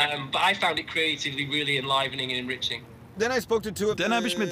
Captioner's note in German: Er spricht auf Englisch fertig